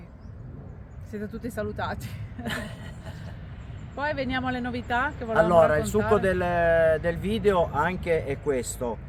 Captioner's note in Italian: risate